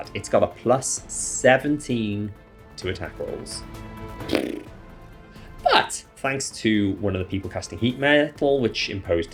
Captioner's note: head explode noise